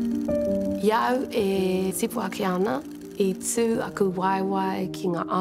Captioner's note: speaks Te Reo Māori